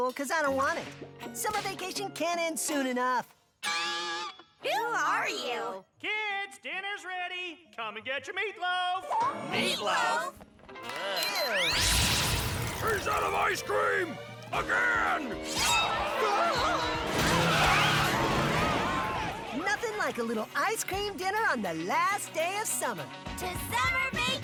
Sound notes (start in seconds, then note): 14.5 angry mob shouts